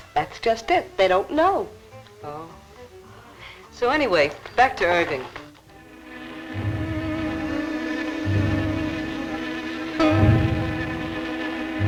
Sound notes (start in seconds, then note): 5.4 buzzing; 8.7 suspenseful music